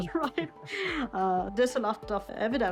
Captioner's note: laughing